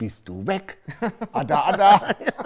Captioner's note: Lachen